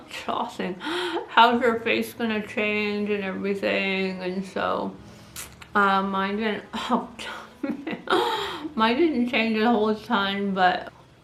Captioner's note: laughs